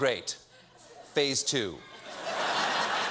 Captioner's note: laughter